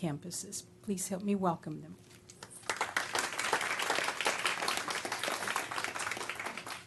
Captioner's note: applause